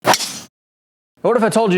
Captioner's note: loud noise of hitting a ball